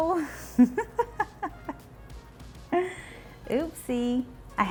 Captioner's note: chuckles